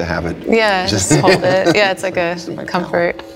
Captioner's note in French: rires